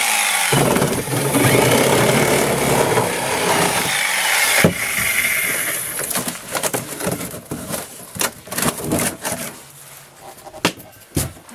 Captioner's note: sawing